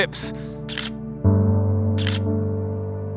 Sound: camera shutter clicks

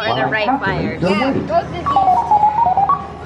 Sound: automated Voice Of Scale

